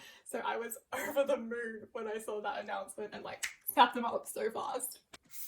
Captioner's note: snap of fingers